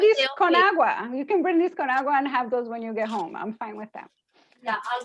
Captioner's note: spanish